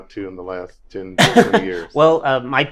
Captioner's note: laughing drowns out speaker